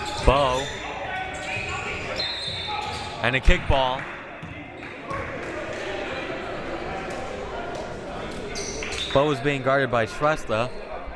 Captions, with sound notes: Bowe. (whistle) And a kick ball. Bowe was being guarded by Shrestha.